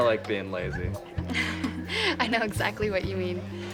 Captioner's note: laughs